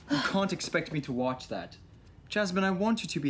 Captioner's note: Jasmine gasps